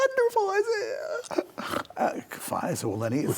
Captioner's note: sobbing, snorting